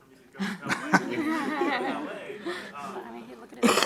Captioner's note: audience laughs